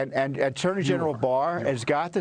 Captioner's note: laughter